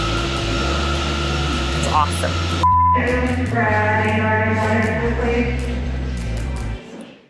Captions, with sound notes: It's awesome. (muffled voice announcing)